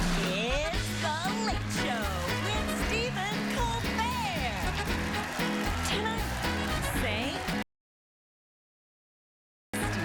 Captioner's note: cheers and applause; band playing